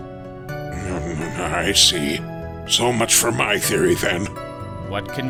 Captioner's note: grumbling